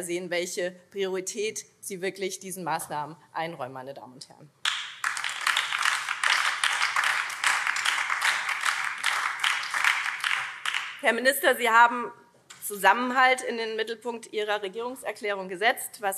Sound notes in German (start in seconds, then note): 4.6 Beifall BÜNDNIS 90/DIE GRÜNEN